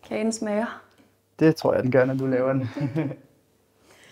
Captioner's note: laughs